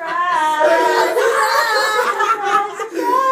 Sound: laughs

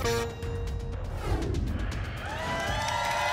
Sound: whoosh; applause and cheering

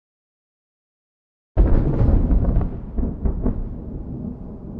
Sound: thunder rumbling

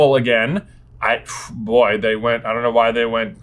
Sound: blows

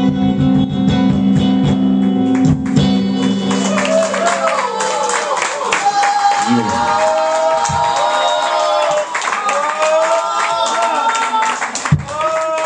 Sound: clapping

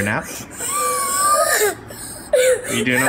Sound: child crying

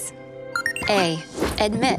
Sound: letter beeps

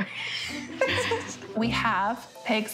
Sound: laughing

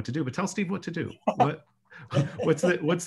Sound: person laughs

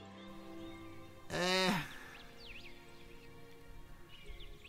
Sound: Sylke sighs

